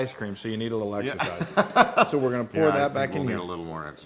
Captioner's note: laugh